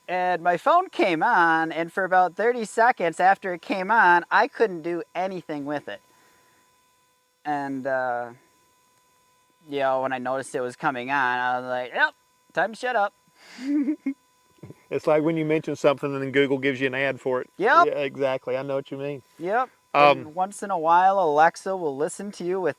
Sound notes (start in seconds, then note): 13.6 laughter